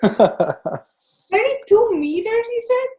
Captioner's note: chuckling